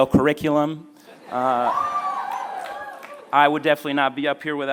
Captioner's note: laughter